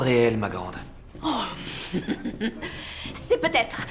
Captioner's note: laughs